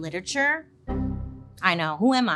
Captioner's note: computer error chimes